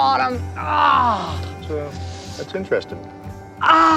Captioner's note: groaning